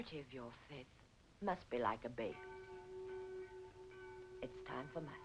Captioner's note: bells tolling